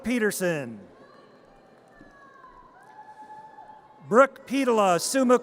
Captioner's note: audience cheers